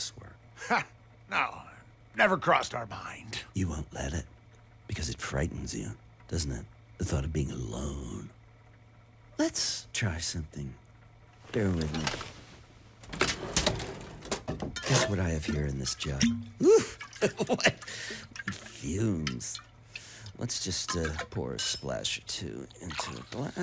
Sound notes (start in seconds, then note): 12.6 bottle sloshes; 13.0 opens drawer; 16.6 laughs